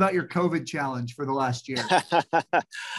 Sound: laughs

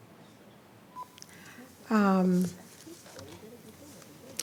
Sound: speaking faintly

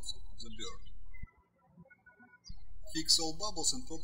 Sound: birds chirping

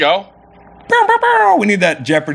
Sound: laser sounds

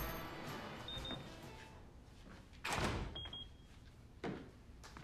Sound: house alarm beeps

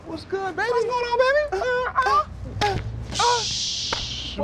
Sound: men grunt

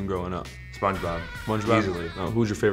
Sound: Spongebob laughing

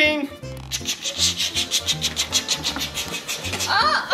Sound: making choo choo noises

